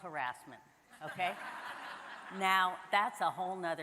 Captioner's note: audience laughing